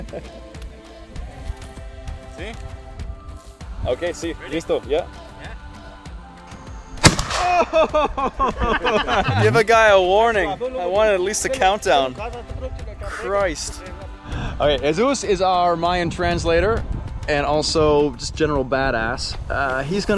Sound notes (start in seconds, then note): 0.0 speaking Spanish; 0.0 chuckling; 4.2 speaking Spanish; 7.0 gun firing; 7.1 yelling; 7.4 chuckling